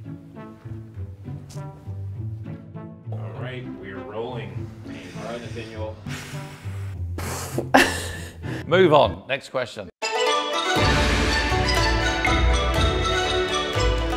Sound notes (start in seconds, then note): 0.1 upbeat music; 6.2 man sighs; 7.2 woman sighs; 7.4 woman laughs; 10.0 festive music